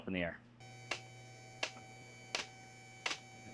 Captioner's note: buzzing